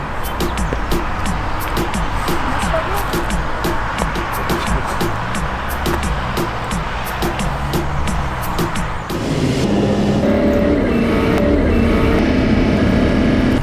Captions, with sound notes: - That's for you! (racing car noises)